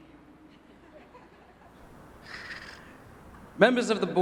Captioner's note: audience laughing